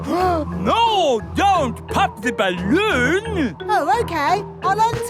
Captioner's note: gasps